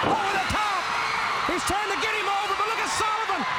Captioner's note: crowd cheering